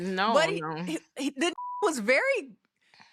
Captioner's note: beep